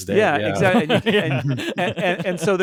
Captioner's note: laughing